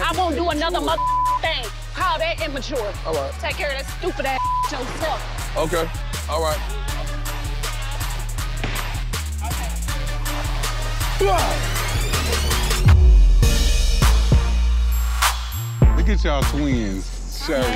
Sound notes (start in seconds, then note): 0.8 beep; 4.3 beep; 11.2 yells; 13.6 upbeat music